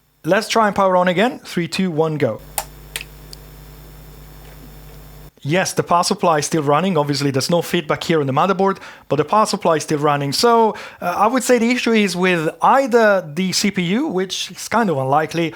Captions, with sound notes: Let's try and power on again. Three, two, one, go. [BUZZING] Yes, the power supply is still running. Obviously there's no feedback here on the motherboard, but the power supply is still running. So I would say the issue is with either the CPU, which is kind of unlikely,